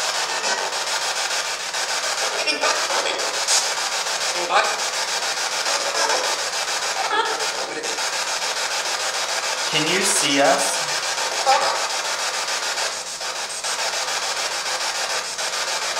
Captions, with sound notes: Can you see us? [STATIC]